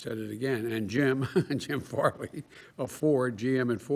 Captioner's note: laughs